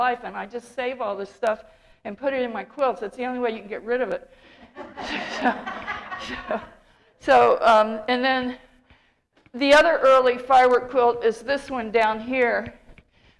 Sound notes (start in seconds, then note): 4.6 laughter